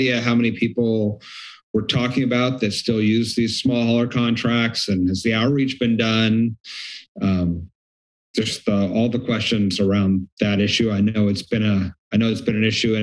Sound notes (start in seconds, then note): 6.6 inhales